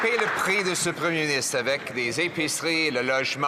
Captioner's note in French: voix de l'interprète